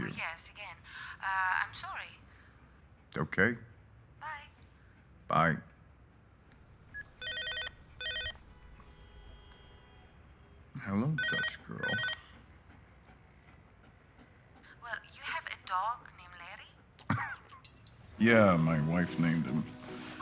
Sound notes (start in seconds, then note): 7.1 rings; 11.8 ringing; 17.0 laughs